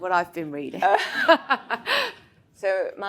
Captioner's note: all laughs